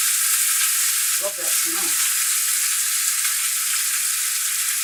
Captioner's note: sizzles